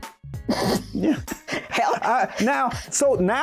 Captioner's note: snickering